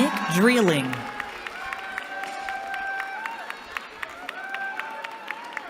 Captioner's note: cheering